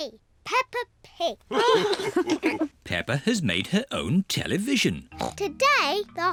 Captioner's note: all laugh